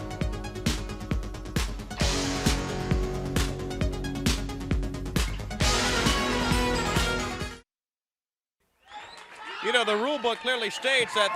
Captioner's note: crowd cheering